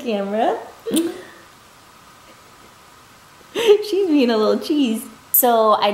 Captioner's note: laughs; light smooch